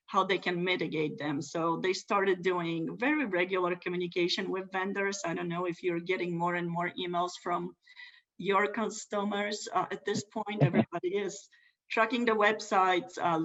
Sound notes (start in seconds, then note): 10.6 laughs